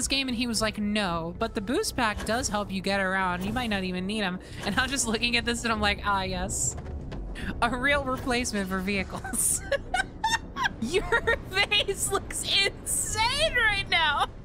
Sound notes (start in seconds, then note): 9.1 laughter